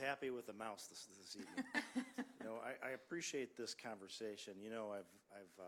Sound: laughter

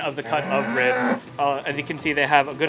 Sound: cow mooing

